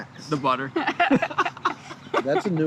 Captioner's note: laughter